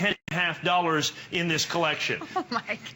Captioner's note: laughter